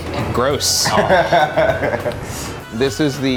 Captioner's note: laughing loudly